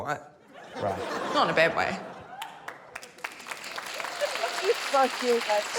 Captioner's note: laughter, applause